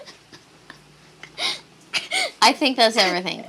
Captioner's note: giggles some more